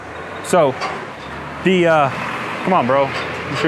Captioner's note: car drives past